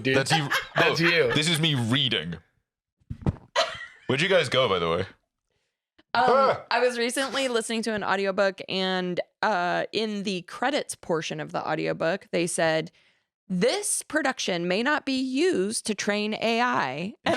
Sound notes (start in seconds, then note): 3.5 laughs